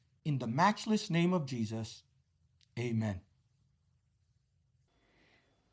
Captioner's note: speaking spanish